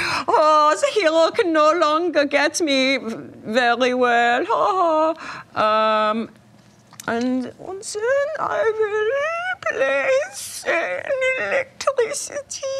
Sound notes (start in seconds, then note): 0.3 imitates German accent; 7.2 whining voice